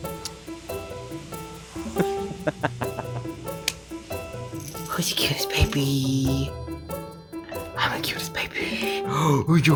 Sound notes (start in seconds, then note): 0.2 lively music; 1.8 laughs